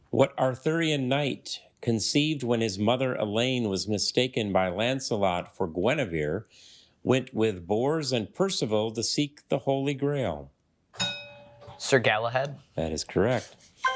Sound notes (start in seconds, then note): 11.0 bell dings